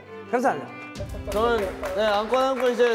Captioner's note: round of applause